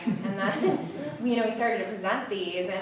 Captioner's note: audience giggles